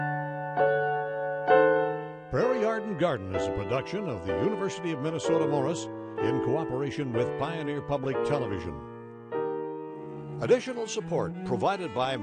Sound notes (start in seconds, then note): 2.5 voiceover